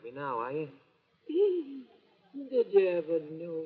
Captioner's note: sobs